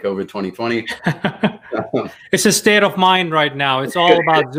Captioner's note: laughing